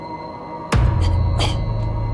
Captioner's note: Shayna choking